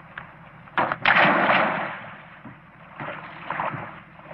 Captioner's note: splashing